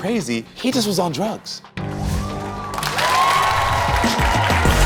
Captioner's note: audience cheering; upbeat music